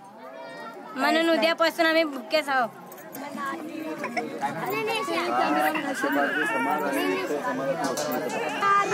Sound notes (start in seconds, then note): 4.6 people Talking